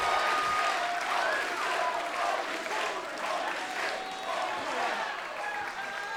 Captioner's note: fans chanting